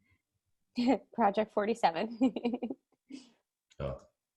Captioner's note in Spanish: risas